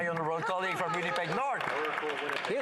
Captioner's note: speaking French